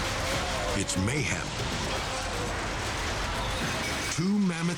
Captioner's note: glass shattering